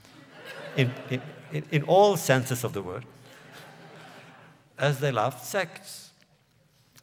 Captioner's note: laughter; laughs